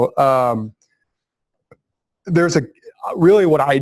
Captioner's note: pause